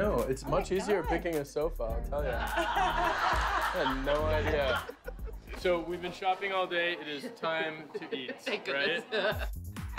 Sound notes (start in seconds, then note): 2.3 laughter